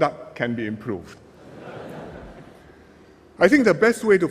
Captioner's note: laughter